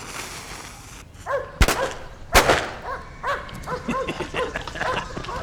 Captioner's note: firecracker sizzling; barking; blasting; laughing